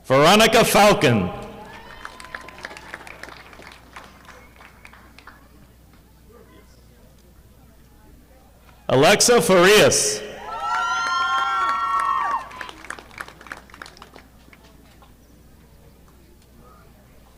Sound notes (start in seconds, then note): 1.4 audience applauding; 10.4 audience applauding